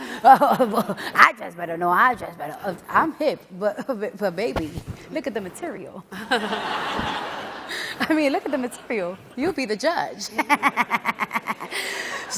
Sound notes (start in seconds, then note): 6.2 audience laughing; 10.2 laughs